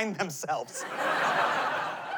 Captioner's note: laughter